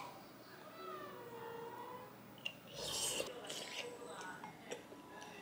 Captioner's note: slurping moments